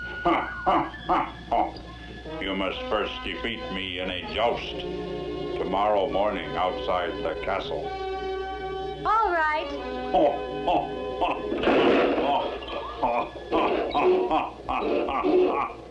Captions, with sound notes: [ Laughing Heartily ] - You must first defeat me in a joust! Tomorrow morning outside the castle! - Alright. [ Black Knight Laughing ] [ Klang! ] - HA Ha Ho Ha ha ha!